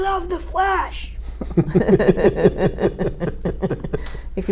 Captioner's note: laugh